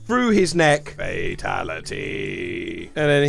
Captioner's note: low-pitched